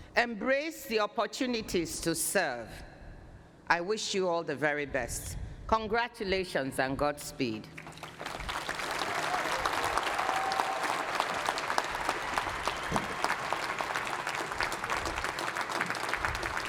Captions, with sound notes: Embrace the opportunities to serve. I wish you all the very best. Congratulations and godspeed. [APPLAUSE] [CHEERING]